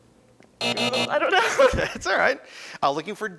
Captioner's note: buzzing